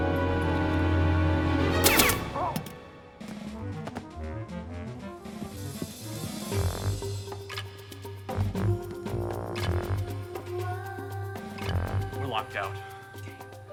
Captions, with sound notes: (gun fires) (suspenseful music) (woman vocalizing) - We're locked out. - Damn.